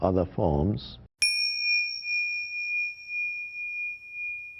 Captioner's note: bell chimes